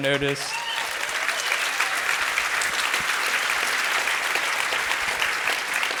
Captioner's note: crowd cheers and applauds